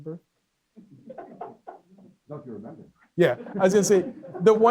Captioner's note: laughing and speaking off mic